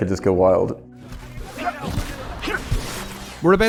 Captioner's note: grunting